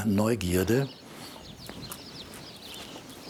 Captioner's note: birds chirping